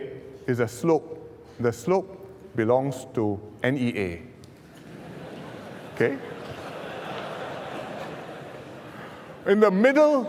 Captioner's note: laughs